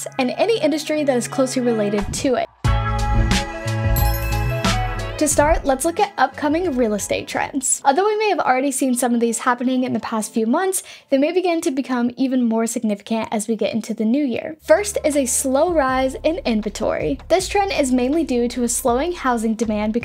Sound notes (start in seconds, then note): 2.7 downtempo music; 3.9 chimes tinkling